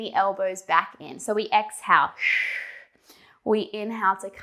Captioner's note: breathing sharply